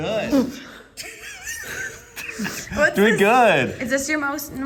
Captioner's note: laughs